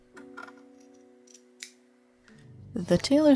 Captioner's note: snip